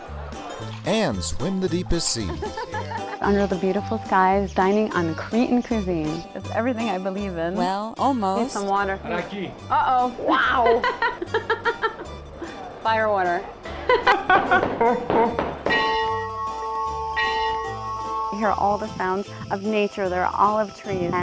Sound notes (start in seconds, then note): 10.6 laughter; 13.9 laughter turns distorted; 15.7 church bells ring